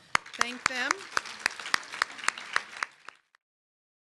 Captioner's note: applause